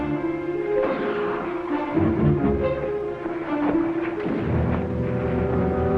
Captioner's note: suspenseful music; distant guns fire